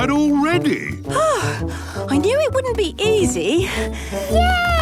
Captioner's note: panting